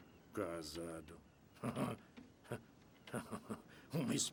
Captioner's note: chuckling